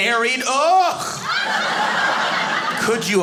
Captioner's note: audience laughing